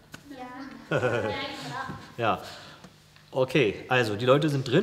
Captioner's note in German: lacht